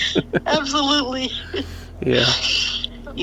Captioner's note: chuckles